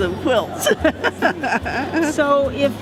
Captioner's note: laughter